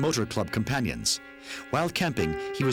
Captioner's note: speaking in foreign language